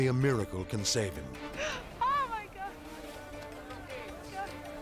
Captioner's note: gasps